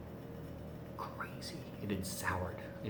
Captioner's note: whispers